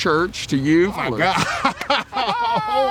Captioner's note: laughs